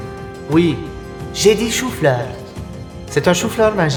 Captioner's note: normal voice